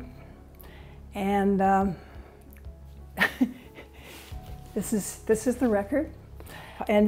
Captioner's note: laughing